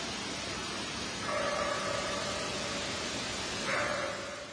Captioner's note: eerie barking